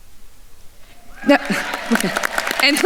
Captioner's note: attendees applauding